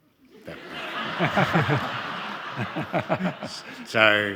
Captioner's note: all laughing